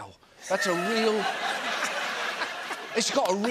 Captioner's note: laughter